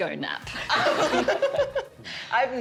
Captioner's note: laughter